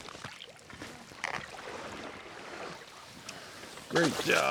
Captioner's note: reel whirring